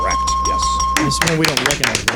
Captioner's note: bell ringing